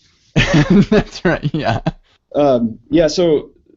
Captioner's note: laughs